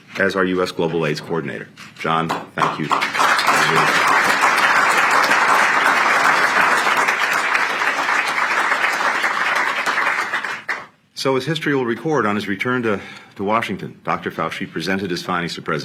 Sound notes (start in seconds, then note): 9.3 applause